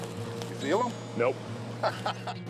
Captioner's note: laughter